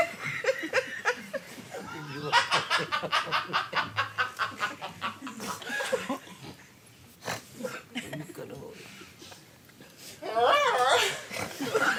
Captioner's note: audience laughs